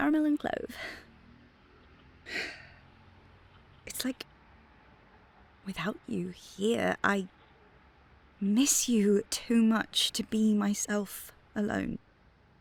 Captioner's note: sighs